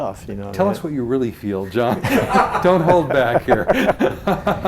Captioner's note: laughs